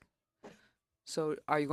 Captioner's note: speaking French